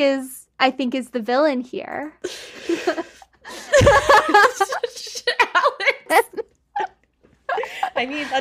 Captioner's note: laughs